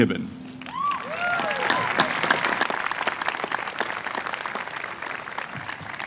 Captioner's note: applause